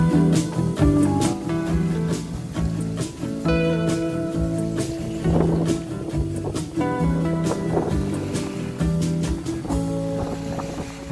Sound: wave sounds

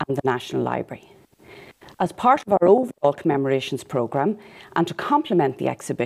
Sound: audio blurs

